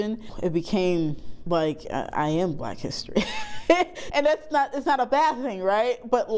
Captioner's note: laughing